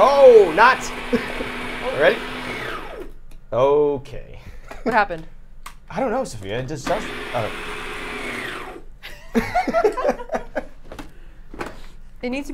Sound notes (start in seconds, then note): 1.7 ice cream maker whirring; 6.8 ice cream maker whirring; 9.0 all laughing